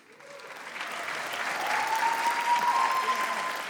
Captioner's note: audience cheers